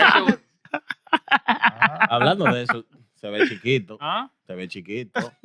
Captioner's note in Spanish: Riendo; Hablando en idioma extranjero